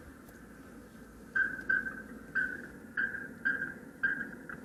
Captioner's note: fish chirping